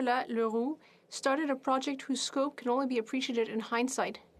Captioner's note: speaking French